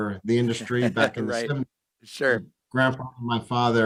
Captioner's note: laughs and agrees